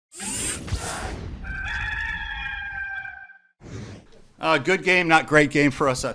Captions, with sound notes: (rooster crowing) - Good game, not great game for us.